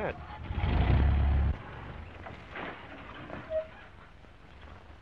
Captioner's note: car engine accelerating; brakes squeak